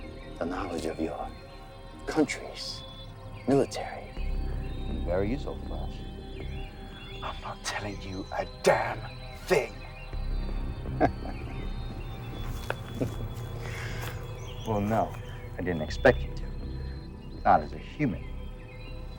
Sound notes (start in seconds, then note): 0.0 intense music continues; 10.9 vampire laughing; 11.8 intense music continues